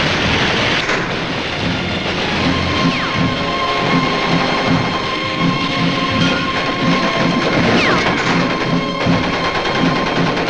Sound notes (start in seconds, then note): 2.6 dramatic music; 2.6 guns firing